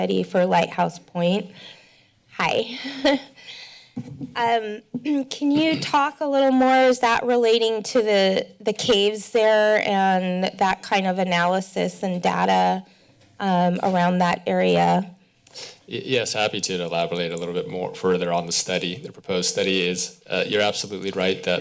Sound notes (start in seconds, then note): 4.0 chuckles; 5.5 clears throat